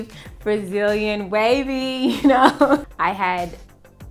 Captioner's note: laughs